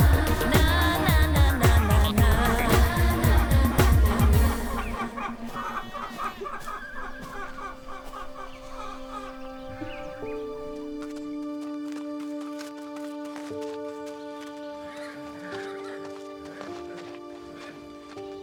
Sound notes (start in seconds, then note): 5.1 chickens squawking; 7.7 soft pensive music; 14.9 horses neighing